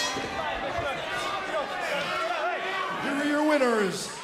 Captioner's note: bell ringing